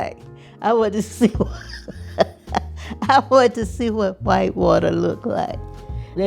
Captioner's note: laughter